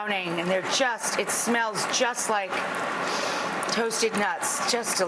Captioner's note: inhales deeply